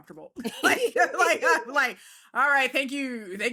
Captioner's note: laughs